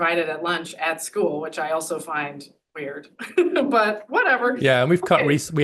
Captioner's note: laughs